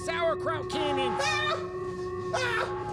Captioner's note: screaming